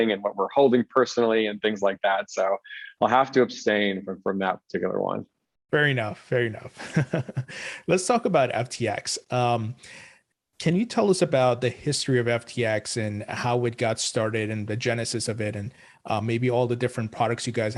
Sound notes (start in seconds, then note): 7.4 laughs